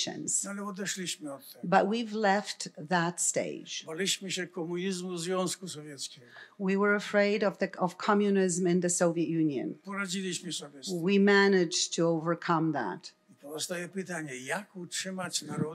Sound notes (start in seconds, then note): 0.2 foreign language; 3.7 foreign language; 9.9 foreign language; 13.5 foreign language